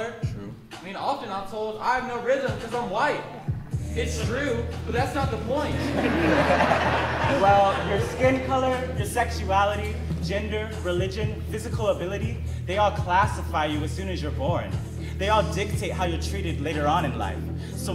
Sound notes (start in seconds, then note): 5.6 audience laughing